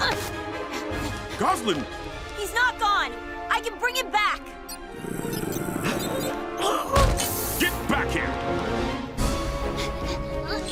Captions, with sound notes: [panting and grunting] Gosalyn? He's not gone. I can bring him back. [growls] Get back here.